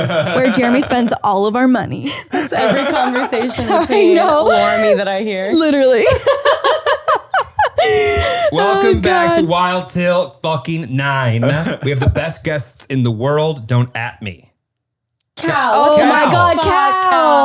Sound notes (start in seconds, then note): 5.5 laughing